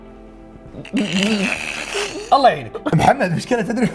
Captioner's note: laughs